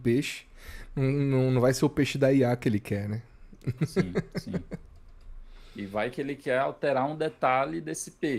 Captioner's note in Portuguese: risadas